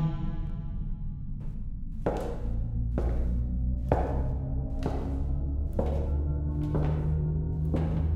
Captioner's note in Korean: 구두 소리